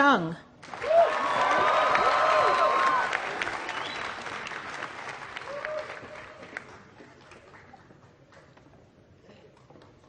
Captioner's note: applause